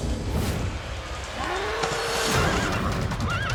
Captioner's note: horse neighing; cow moos